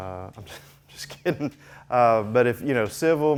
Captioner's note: chuckling